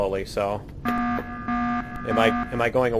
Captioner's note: klaxon